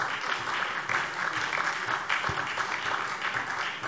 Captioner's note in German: Beifall SPD